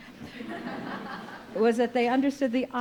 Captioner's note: audience laughing